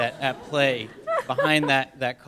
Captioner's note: laughter